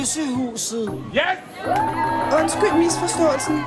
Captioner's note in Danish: råber publikum